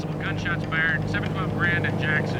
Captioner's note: man over radio